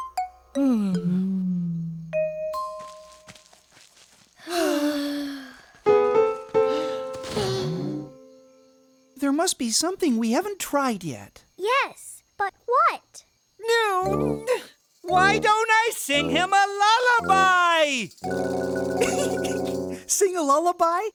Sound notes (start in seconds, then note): 0.6 moaning; 4.3 sighs of fatigue; 6.6 sigh; 14.0 groans of frustration; 19.0 giggling